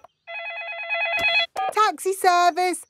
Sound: phone ringing; dialing

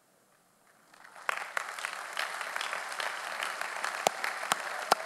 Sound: audience applauding

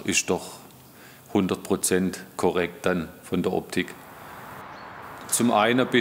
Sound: none

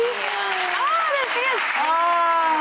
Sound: applause

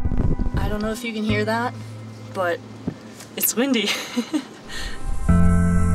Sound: laughs

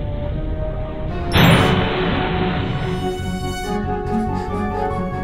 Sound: loud exploding; dramatic music

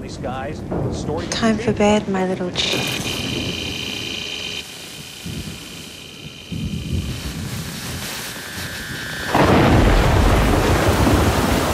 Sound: TV static

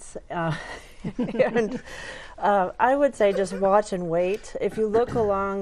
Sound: laughing

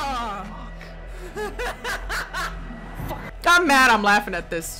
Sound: laughs

